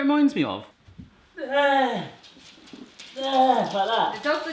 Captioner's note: grunting